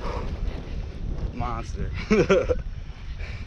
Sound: laughing

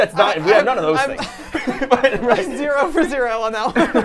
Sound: laughs

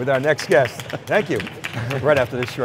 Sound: applause

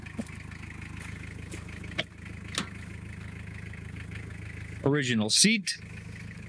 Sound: engine revving

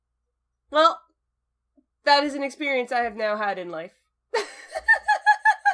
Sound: laughter

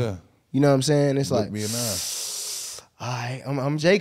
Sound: inhaling

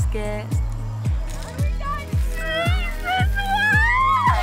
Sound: crunchy chewing

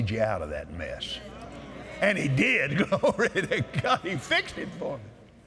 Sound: audience Agrees

